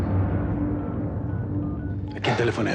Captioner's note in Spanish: sonido al marcar